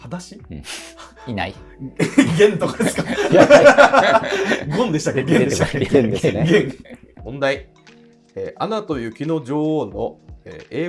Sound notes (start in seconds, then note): 3.5 laughing